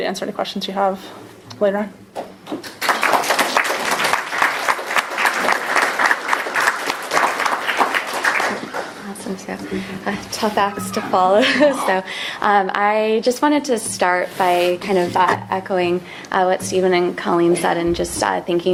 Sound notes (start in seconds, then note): 2.5 applause